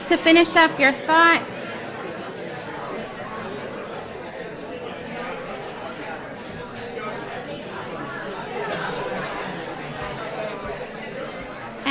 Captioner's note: crowd discussing